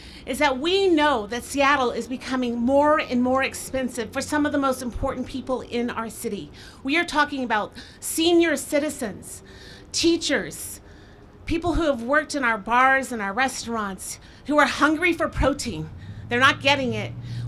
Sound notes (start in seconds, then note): none